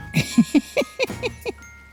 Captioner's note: cheerful music; camera operator laughs